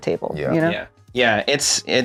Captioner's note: murmured assent